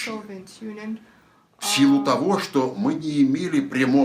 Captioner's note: foreign language